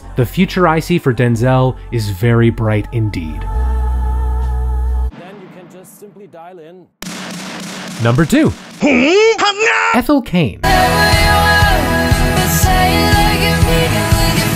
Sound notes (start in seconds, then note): 3.7 gentle music; 7.0 drum beats; 8.8 loud yells